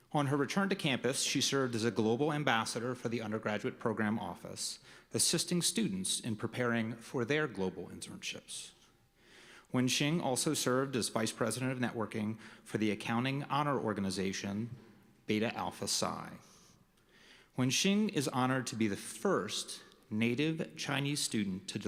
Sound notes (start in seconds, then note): none